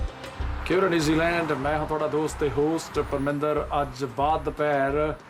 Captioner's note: speaking in Punjabi